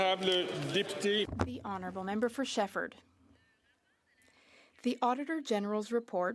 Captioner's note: applause